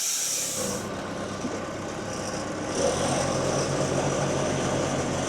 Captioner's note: forklift engine revving